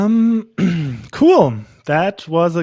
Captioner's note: clears throat